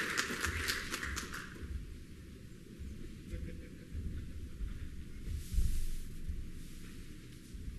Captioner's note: applause